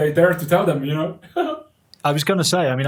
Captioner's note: giggling